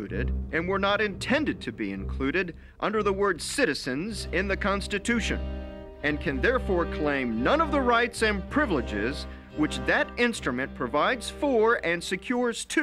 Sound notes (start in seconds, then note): none